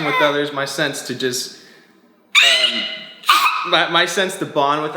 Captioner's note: yells